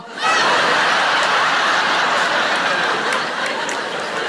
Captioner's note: audience laughing